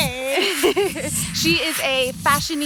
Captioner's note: laughter